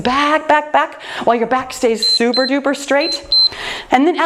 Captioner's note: timer beeps